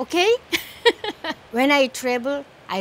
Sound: laughs

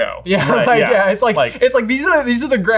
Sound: laughs

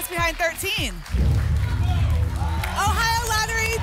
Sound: phaser sound

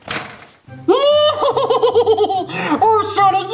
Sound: laughs

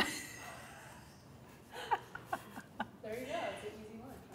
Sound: laughter

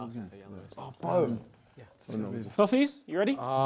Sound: crowd mumbling

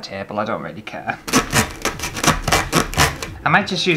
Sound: sawing Sounds

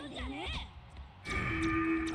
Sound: demon noises

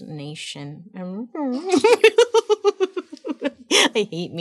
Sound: laughing

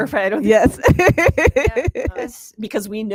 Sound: laughs

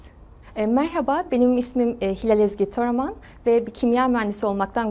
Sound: speaking Turkish

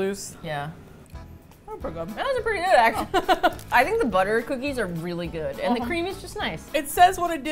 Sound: laughs

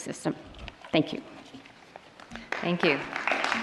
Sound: applause

